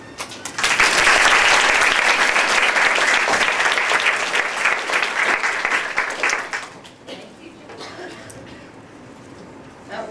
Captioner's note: applause